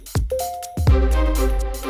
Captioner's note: email message notification sound